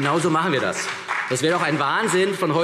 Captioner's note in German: Beifall CDU und BÜNDNIS 90/DIE GRÜNEN